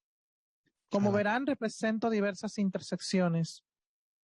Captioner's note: speaking Spanish